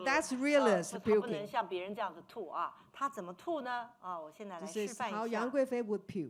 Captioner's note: speaking Mandarin